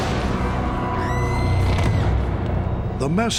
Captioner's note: explosion; screaming